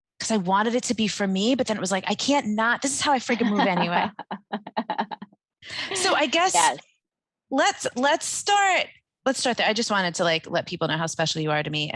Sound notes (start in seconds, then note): 3.3 laughing